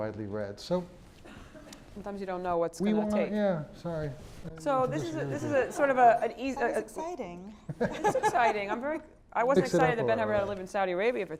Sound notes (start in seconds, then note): 7.6 laugh